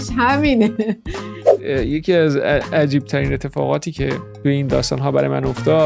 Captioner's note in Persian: خنده